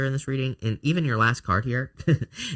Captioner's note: chuckles